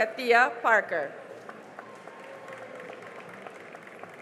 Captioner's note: cheering and applause